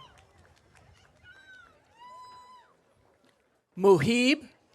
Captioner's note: audience cheering